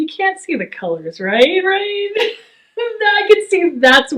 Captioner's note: laughs